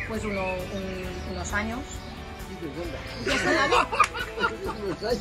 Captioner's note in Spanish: risas